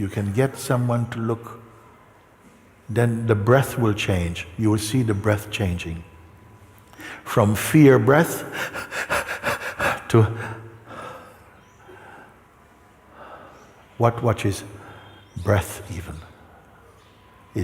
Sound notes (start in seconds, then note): 8.4 atmet schnell und flach